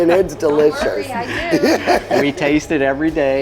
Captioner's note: laughs